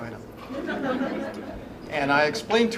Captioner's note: laughter